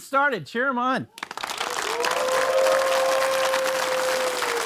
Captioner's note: audience cheering